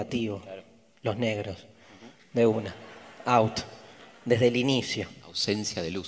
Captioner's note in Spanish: audience laughs